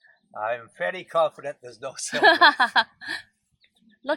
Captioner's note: laughing